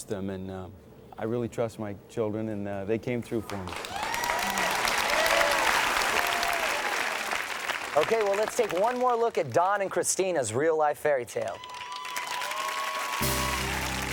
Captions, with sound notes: And I really trust my children and they came through for me. (audience cheers and applauds) - Okay, well let's take one more look at Don and Christena's real life fairytale. (audience cheers and applauds)